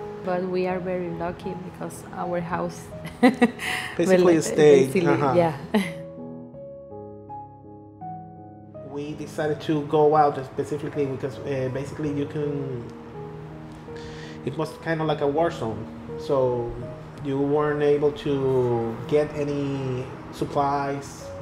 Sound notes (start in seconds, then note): 3.0 laughter; 6.3 dramatic music